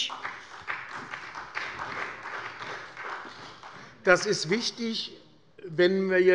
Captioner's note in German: Beifall bei der SPD